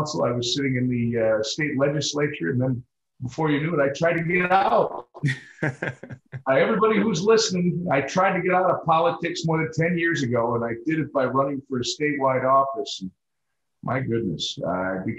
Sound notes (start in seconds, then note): 5.2 chuckles